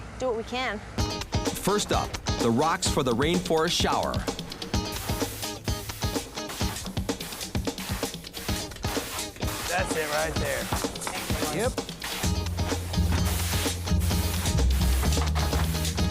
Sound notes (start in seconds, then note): 0.2 funky jazz music; 4.5 paint spray sound; 11.7 funky jazz music; 12.8 paint spray sound